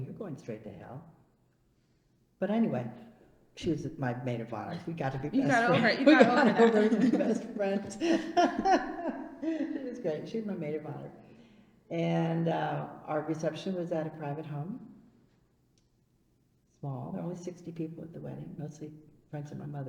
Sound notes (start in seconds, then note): 4.7 laughs